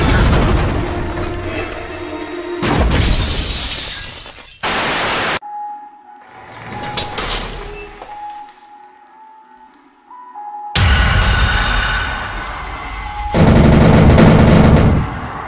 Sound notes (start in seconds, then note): 2.6 crash; 13.6 bang